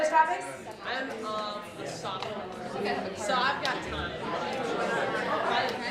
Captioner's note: excited conversations